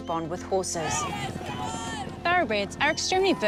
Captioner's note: spectators shout